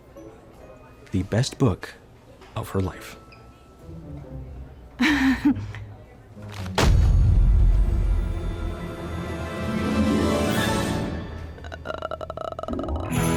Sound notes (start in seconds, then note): 5.0 nervously giggles; 6.5 books thud; 11.5 groans